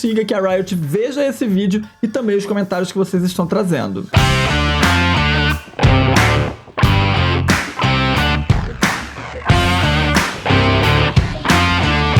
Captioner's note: clap